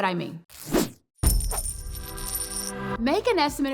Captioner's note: coins clatter